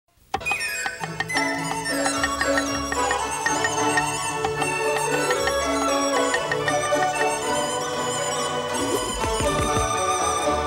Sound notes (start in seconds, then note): 0.0 chopping; 0.4 joyful music